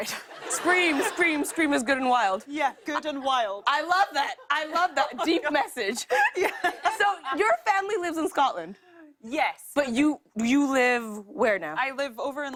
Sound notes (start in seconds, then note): 5.3 laughing